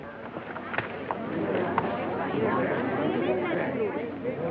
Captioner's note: chatter